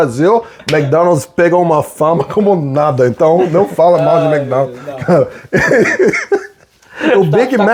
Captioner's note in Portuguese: risadas